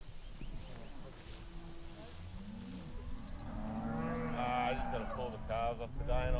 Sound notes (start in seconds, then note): 0.1 insects chirping; 2.4 cows mooing